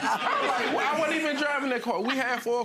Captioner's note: laughs